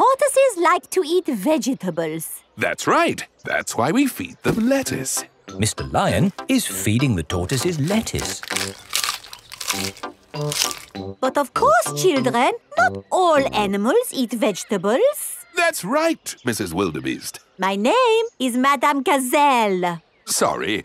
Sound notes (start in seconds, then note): 9.1 munching